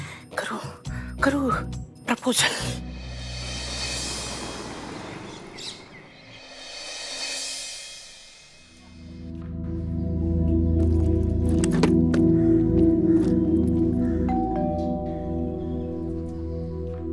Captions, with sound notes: Karu, Karu, proposal. [bell ringing]